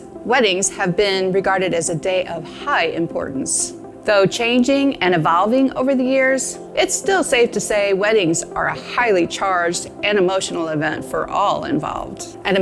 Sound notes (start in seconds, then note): none